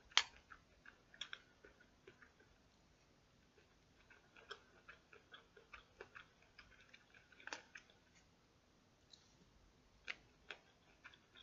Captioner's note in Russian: Аппетитно жует кукурузку